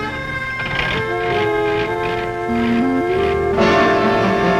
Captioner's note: car engine revving